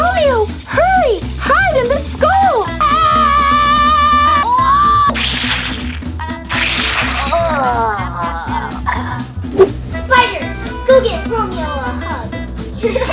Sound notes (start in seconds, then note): 6.4 squish